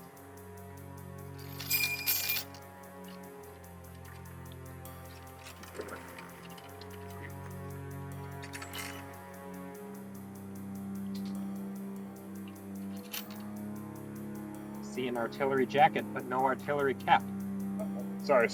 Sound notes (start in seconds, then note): 1.5 gun clanking; 3.4 ominous music